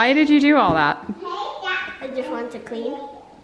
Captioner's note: children talking